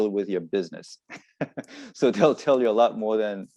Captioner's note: laughs